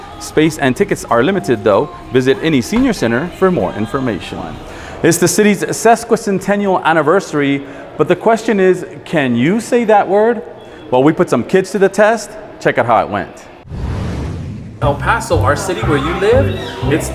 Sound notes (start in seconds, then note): 13.6 graphic whooshing